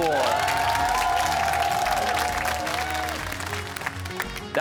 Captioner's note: cheers and applause